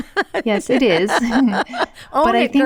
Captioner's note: laughing